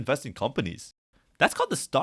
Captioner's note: silence